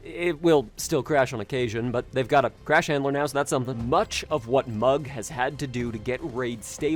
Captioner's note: none